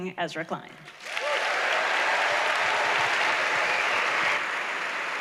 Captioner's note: applause